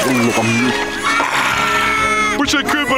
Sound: Junior crying

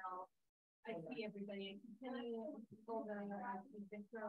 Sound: attendees chattering

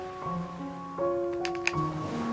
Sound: cracc

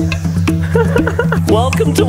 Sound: laughs

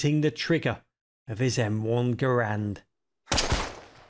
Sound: gunshot

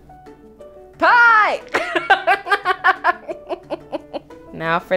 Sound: laughing

